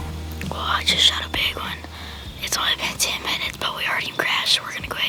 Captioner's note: whispering